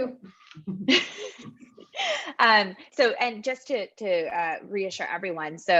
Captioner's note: laugh